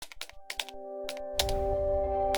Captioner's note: keyboard clacking; gentle music